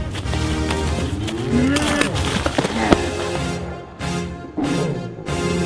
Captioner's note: riverbeast roars